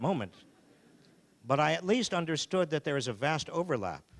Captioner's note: audience laughing